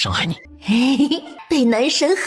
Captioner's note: chuckles